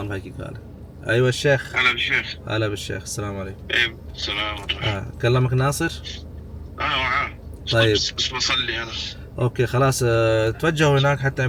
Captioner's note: Arabic